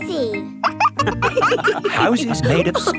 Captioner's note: wolves laughing